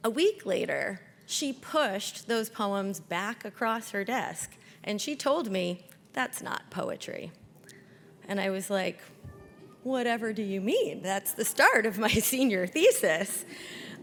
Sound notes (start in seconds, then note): none